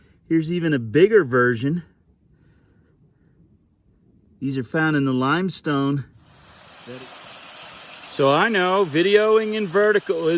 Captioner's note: waterfall noise